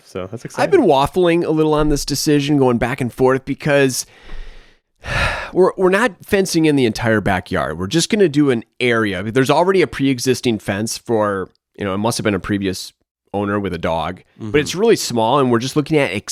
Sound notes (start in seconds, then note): 5.0 sighs